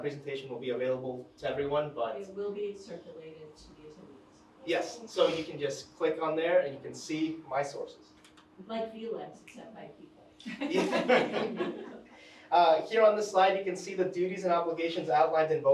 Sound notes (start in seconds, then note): 10.4 attendees laughing; 10.4 chuckles